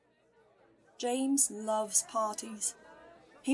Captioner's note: chattering of a crowd